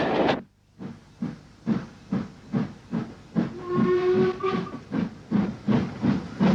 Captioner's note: train passes